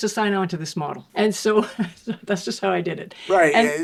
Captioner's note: chuckling